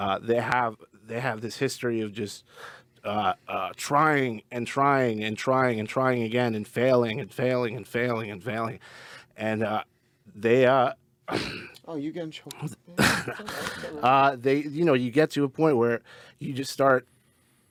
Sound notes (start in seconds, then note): 11.3 clears throat; 13.0 clears throat